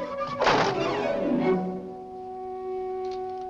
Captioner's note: door slams shut